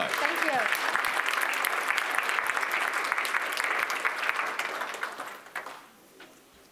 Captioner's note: applause